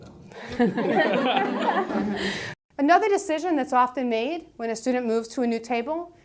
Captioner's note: laugh